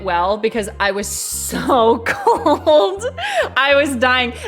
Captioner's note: laughs